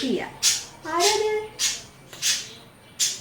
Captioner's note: sound of my birds